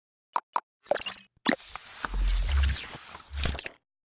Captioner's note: machine whirring